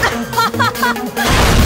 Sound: laughter

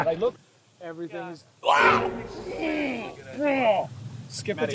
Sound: shouts in surprise

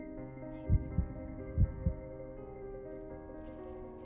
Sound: heart beating

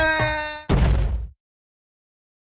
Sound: crash

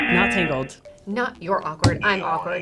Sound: graphic popping

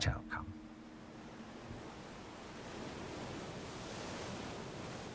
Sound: waves crashing

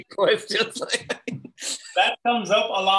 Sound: laughing

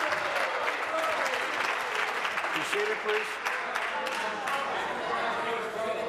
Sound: applause

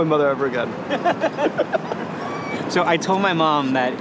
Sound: both laughing

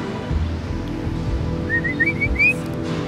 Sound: whistle

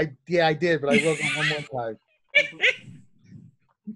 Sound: laughing

